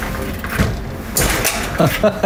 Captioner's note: clank!!